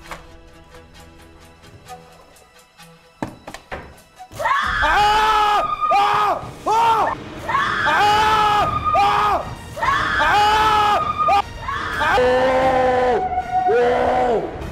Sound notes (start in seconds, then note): 4.3 aghhhh!